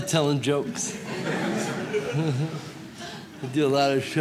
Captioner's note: audience laughs